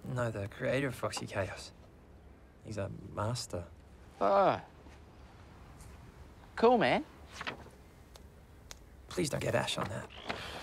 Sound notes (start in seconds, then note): none